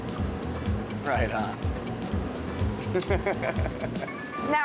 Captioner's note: laughing